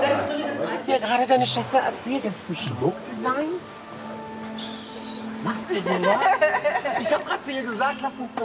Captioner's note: chatter